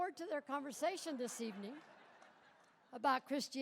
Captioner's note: audience laughs